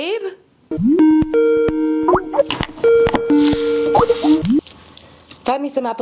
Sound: internet phone rings

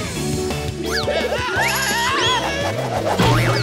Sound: yelling

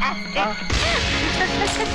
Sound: laughs; gasps

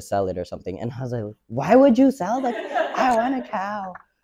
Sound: audience laughs

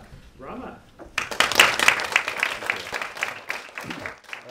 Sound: audience applauding

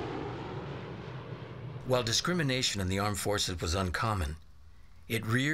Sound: airplane Noise

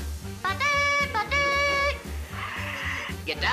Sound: imitating bugle playing

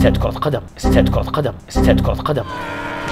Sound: windows' error sound

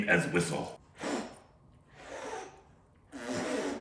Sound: blowing

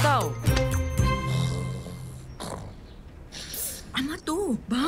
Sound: snoring

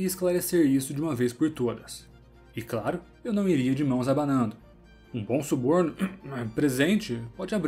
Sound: cough

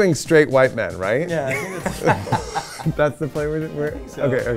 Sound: laughs

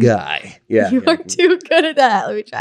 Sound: laughing

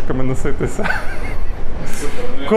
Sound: laughing

